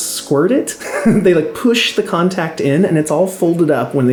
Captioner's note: laughing